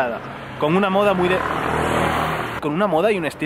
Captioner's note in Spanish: ruido de moto